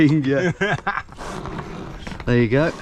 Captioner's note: both laugh